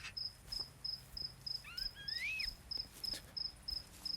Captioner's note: sounds of nocturnal animals